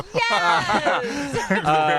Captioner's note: laughter